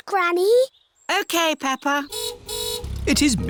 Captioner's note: car horn honks